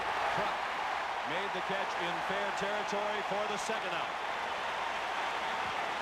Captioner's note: applause